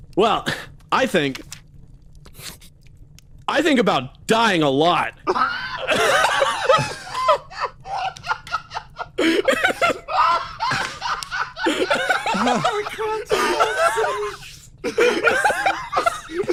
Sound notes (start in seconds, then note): 5.2 laughs